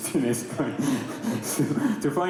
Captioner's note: laughter